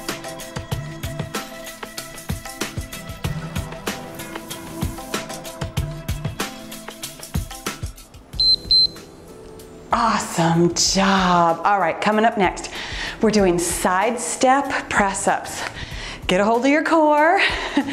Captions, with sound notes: (timer beeps) Awesome job. All right, coming up next we're doing Sidestep Press Ups. Get ahold of your core.